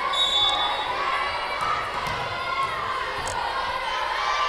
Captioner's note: whistle blowing